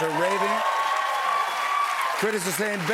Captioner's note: cheers and applause